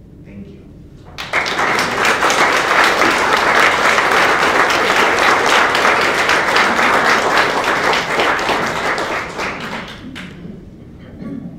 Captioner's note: applause